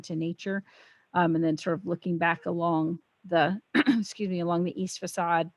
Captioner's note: coughs